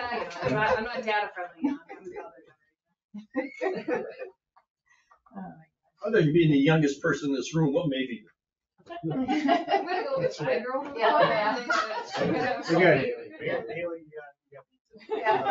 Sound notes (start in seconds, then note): 0.0 all laughing; 3.2 all chuckling; 11.5 all laughing and chattering